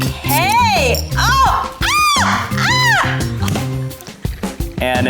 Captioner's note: screams